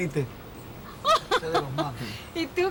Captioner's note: laugh